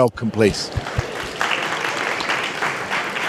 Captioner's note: applause